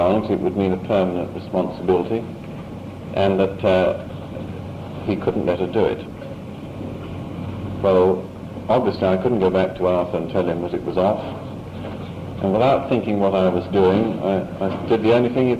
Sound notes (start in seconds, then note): none